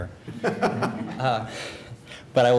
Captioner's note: laughter